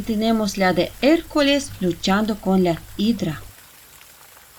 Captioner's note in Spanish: Sonido del Agua de la Fuente